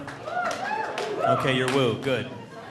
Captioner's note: audience cheering